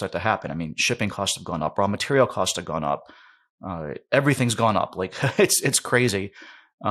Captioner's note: laughs